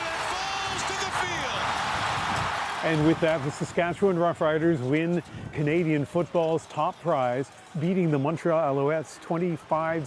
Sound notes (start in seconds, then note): 3.4 cheers and Applause